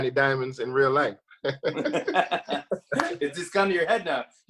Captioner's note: both laugh